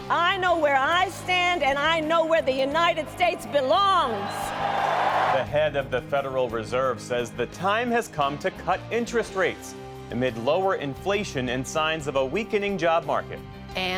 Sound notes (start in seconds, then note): 2.6 cheering; 3.8 applause